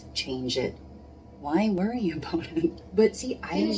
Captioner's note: laughs